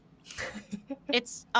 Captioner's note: laughing